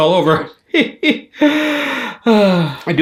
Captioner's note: laughs dryly